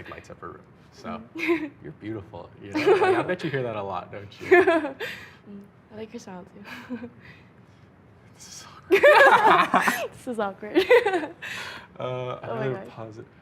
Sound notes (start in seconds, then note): 4.5 laughing; 9.0 laughing